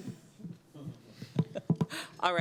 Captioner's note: laughter